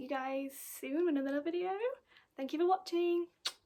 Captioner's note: blows kiss